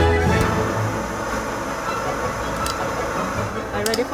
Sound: upbeat music; torch whooshes

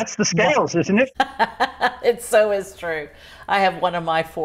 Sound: laughs

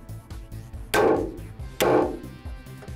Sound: imitating balloon popping; nail thuds; hammer slams

